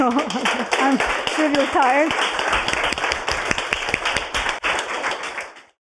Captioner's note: audience claps